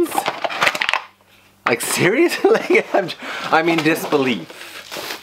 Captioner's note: laughs